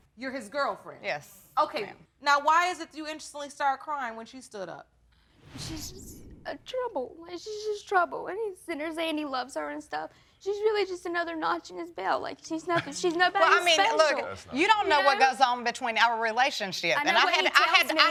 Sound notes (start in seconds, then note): 4.9 stammering